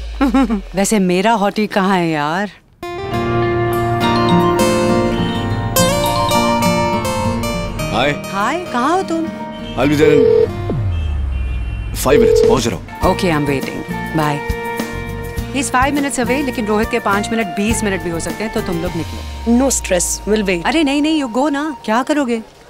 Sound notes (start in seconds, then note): 0.2 Vandy giggling; 4.0 cell phone ringing; 9.9 cell phone ringing